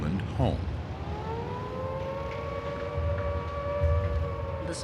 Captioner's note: siren